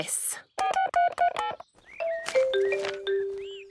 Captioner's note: phone beeping